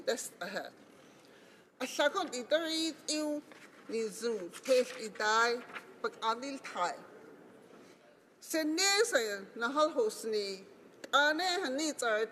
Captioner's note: speaking Alternate Language